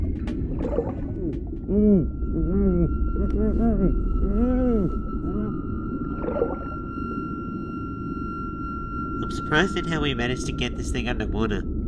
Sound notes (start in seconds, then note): 1.1 Vegemite attempts to speak whilst holding her breath; 5.8 underwater movement as Vegemite sinks